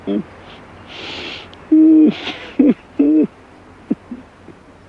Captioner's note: sobbing